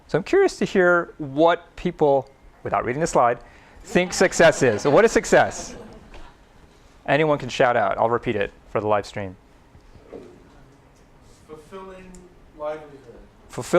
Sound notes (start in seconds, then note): 6.7 laughter